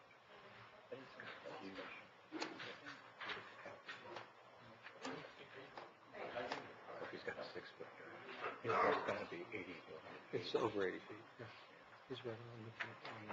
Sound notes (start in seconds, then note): 1.0 talking quietly